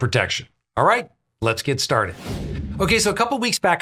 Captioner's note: air whooshes